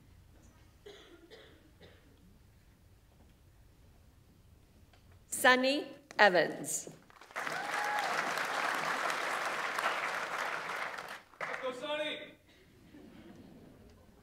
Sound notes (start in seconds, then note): 7.1 audience applauds; 7.2 audience members cheer